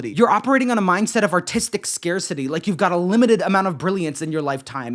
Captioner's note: none